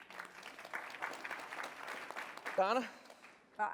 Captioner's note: applause